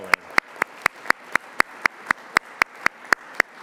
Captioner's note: applause